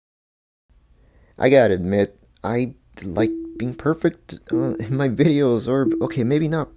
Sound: voiceover

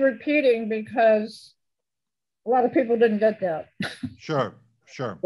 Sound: laughs

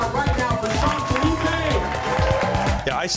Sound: cheers and applause

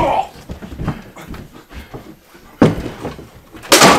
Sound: Jason grunts

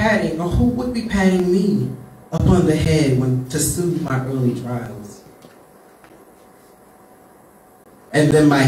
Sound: patting

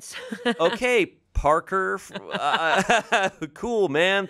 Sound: laughs

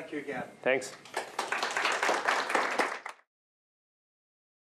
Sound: applause

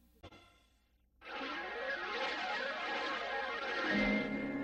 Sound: swirling sounds resuming

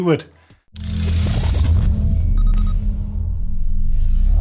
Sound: electronic sounds

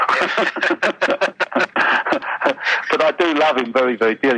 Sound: both laughing

